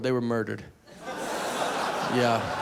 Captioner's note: audience laughing